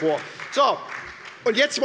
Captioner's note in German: Beifall bei der SPD